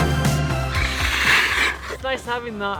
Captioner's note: scraping